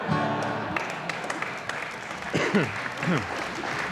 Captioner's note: audience applauding